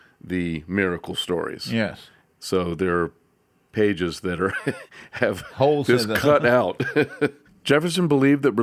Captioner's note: laughs